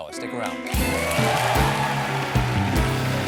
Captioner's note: applause